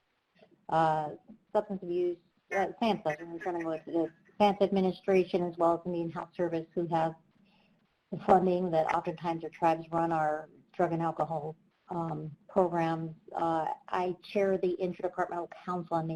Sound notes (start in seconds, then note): 2.3 speaks faintly